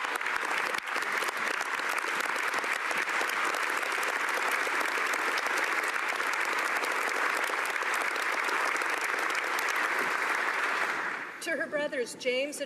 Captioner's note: applause